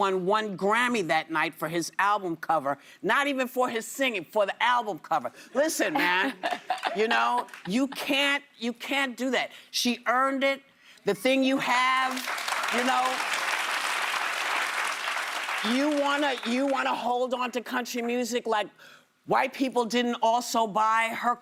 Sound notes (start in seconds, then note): 15.0 applause